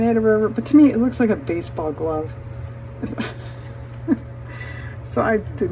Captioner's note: laughs